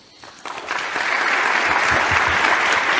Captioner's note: applause